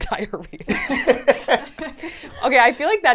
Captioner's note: laugh